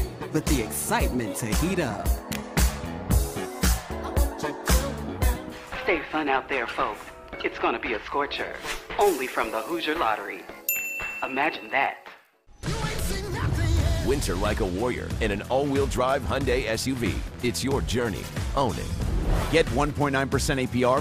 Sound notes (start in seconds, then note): 10.6 ding